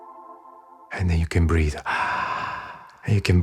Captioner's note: inhale